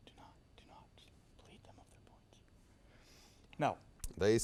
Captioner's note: team whispers